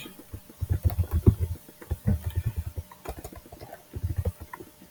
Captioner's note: keyboard clattering